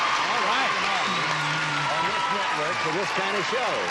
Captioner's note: applause